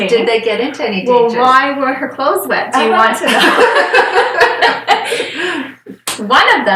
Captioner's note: laughter